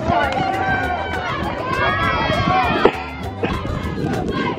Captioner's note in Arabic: هتاف الجماهير